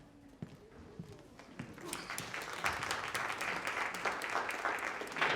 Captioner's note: audience applauds